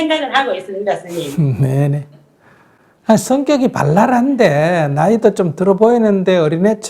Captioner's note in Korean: 스님 웃음